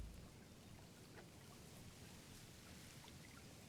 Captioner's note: water lapping